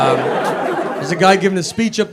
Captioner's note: audience laughs